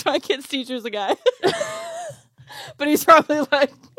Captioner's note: laughs